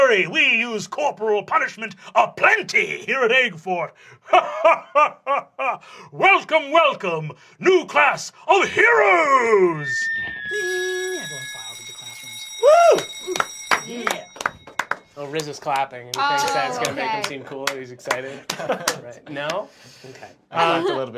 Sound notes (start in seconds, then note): 9.8 bell rings; 12.9 starts clapping